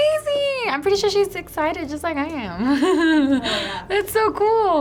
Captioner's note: laughs